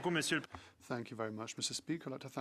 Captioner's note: speaking French